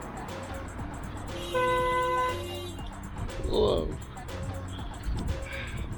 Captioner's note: car horns